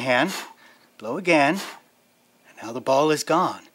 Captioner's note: blowing; blowing